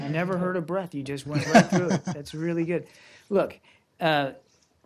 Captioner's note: laughter